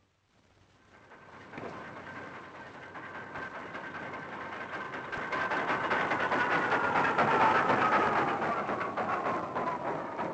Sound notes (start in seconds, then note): 0.7 crane creaking